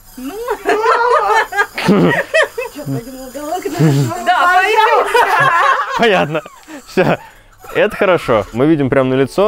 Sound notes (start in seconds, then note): 0.2 laughing